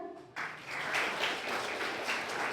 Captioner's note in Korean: 박수